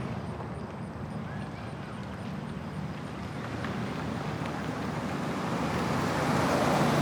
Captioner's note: children chattering indistinctly in distance